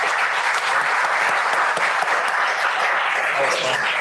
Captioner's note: applause